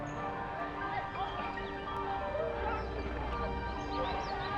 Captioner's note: people chattering